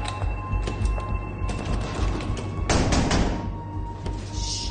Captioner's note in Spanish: Golpes